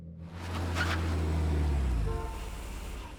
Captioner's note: car engine rumbling; car engine roars; tires squealing; car horn honks